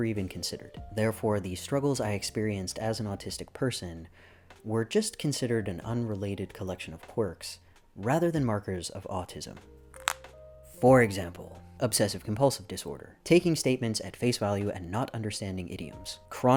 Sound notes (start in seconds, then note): 9.9 knuckles crack